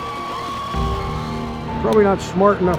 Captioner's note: crowd cheering